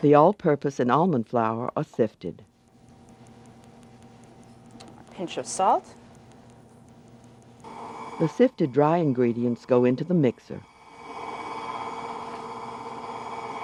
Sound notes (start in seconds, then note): 0.3 voiceover; 8.5 voiceover; 10.7 blender whirs softly